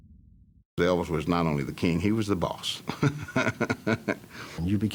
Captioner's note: laughing